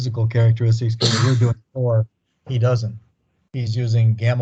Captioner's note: coughs